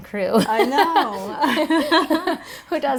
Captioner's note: laughing